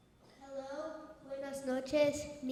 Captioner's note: speaks in foreign language